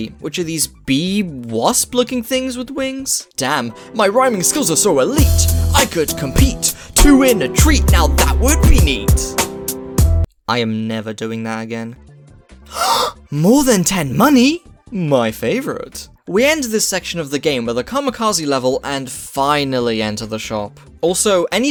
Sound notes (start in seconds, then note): 12.6 gasp